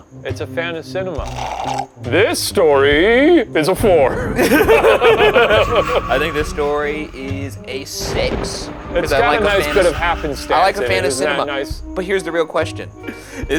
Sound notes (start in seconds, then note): 1.2 slurping; 4.1 laughing; 7.9 thunder rumbling